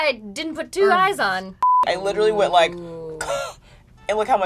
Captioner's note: coughs